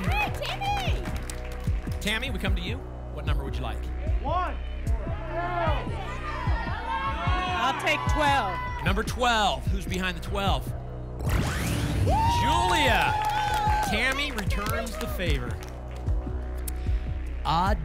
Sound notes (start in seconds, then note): 5.0 audience shouting numbers